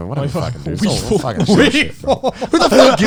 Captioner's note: laughs